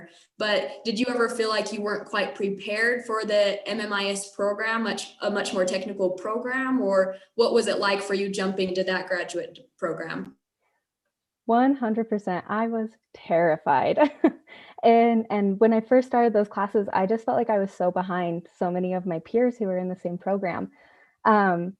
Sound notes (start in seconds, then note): 14.0 laughter